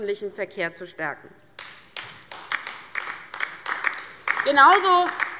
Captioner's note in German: Beifall bei der LINKEN